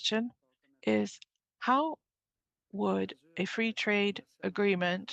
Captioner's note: speaking French